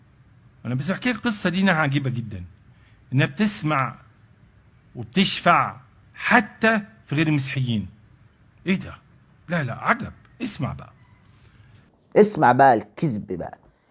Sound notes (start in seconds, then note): 9.9 exclaiming